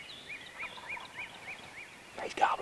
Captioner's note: turkey gobbling